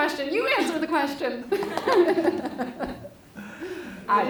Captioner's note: laughter